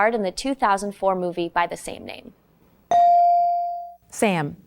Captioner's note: bell dings